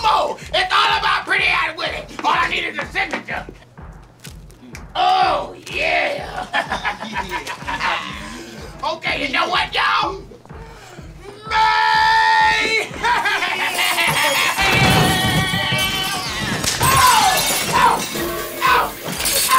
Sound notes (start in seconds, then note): 6.0 laughs; 12.6 laughing evilly; 13.6 glass shattering